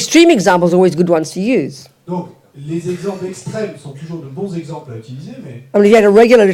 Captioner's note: French